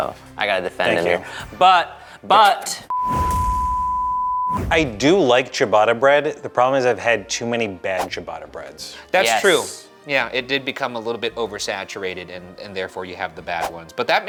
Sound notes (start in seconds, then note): 2.9 graphic beeping; 3.0 graphic whooshing